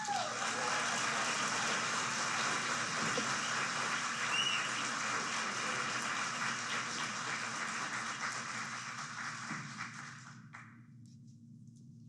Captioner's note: applause